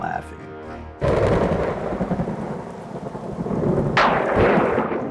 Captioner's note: thunder crashing